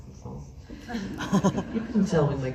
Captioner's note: laughs